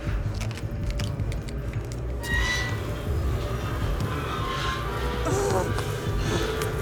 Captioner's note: dramatic music continues; pump clattering